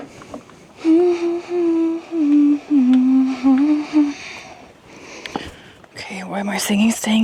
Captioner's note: humming